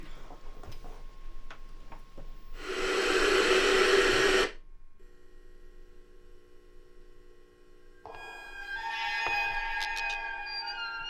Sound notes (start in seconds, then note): 2.5 TV hissing; 8.1 tense music